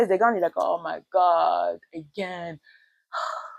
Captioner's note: sighs